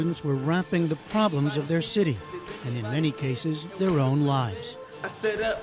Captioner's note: through translator